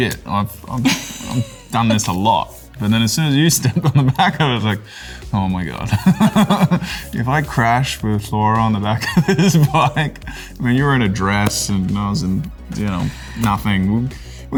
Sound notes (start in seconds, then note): 6.2 laughing